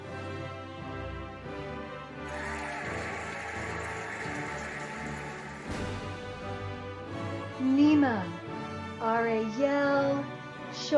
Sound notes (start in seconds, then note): 2.2 cheering and applauding